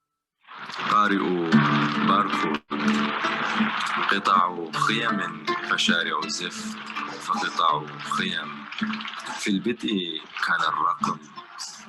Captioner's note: speaking in foreign language